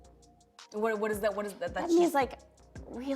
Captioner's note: stammering